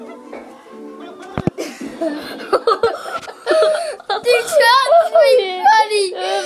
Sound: laughing

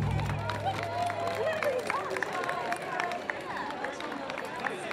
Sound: applause

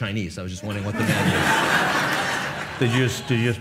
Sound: audience laughs

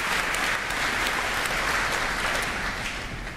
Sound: applause

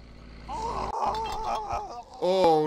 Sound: death throes

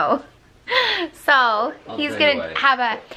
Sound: laughs

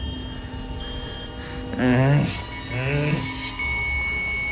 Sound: trilling continues; groaning; steady beeping

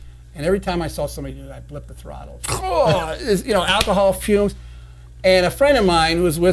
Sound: groans

